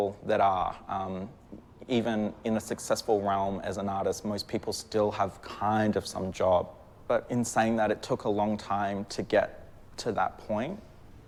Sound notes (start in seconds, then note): none